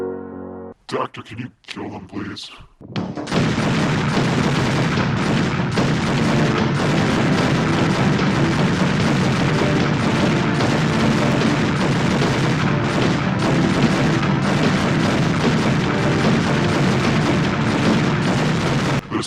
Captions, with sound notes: - Doctor, can you kill them, please. (guns shooting) (action music) (guns shooting)